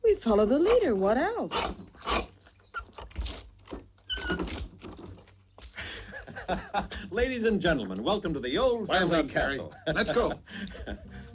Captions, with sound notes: We follow the leader. What else? (door creaking) (laughs) Ladies and gentlemen, welcome to the old- - Well done, Perry. Let's go.